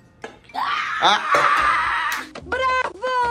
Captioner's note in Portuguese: grito